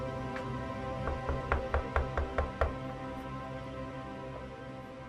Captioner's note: knuckles rapping